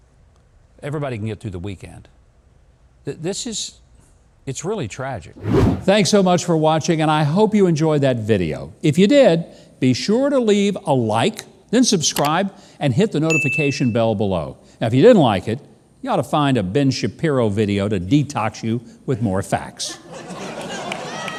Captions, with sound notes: Everybody can get through the weekend. This is, it's really tragic. (whoosh) Thanks so much for watching. And I hope you enjoyed that video. If you did, be sure to leave a like, then subscribe and hit the notification bell below. Now, if you didn't like it, you ought to find a Ben Shapiro video to detox you with more facts.